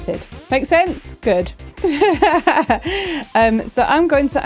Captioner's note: laughing